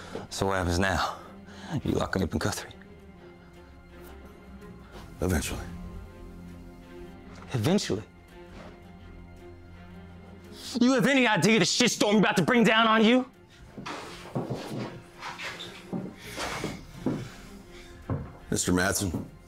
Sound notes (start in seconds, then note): 16.0 footsteps thudding